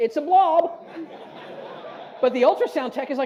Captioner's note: audience laughs